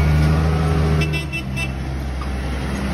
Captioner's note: honk